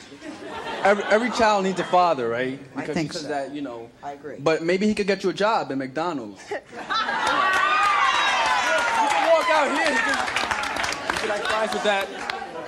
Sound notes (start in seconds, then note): 6.8 audience laughing and applause